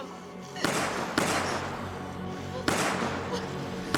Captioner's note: gun shots